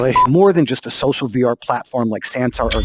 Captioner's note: beep